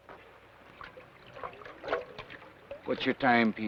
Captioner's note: water swashes